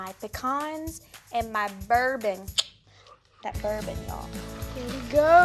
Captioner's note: clicking tongue